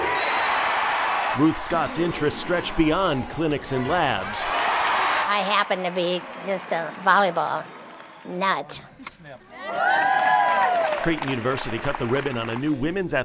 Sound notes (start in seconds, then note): 0.0 cheering